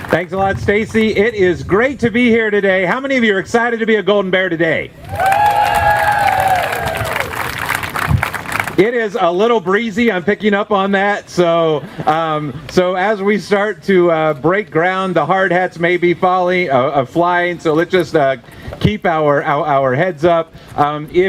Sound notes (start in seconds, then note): 5.0 cheering; 11.5 laughter